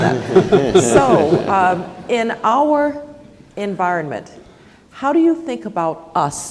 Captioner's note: laugh